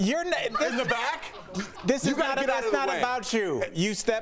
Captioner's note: laughter